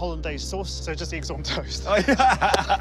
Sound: laughter

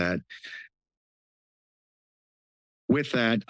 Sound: pause

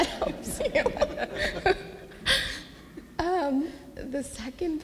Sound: everyone laughs

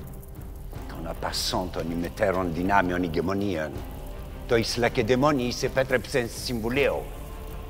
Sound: Themistocles speaking in foreign language; assembly member speaking in foreign language

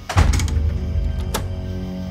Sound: door locks

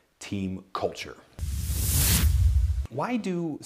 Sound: logo whooshes

